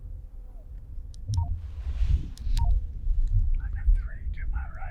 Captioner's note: radio beeping